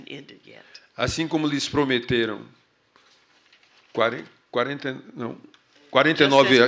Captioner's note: speaking portuguese